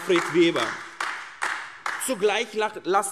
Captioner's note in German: Beifall AfD